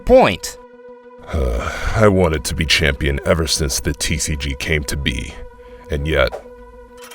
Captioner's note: sigh